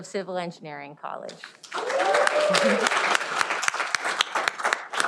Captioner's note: cheering